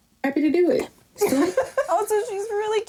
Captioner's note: laughing